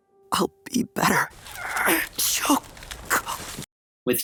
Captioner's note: straining